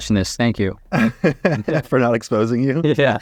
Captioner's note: chuckles